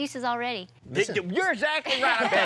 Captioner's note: guys laughing